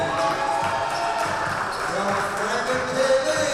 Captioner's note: audience applauding and cheering